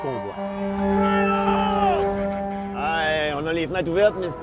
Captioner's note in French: acclamations